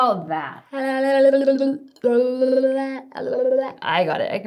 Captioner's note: rolling tongue repeatedly